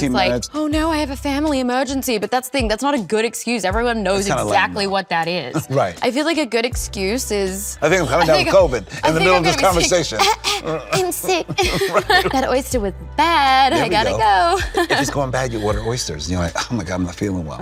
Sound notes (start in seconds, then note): 10.2 Alycia fake coughs; 11.9 Colman chuckles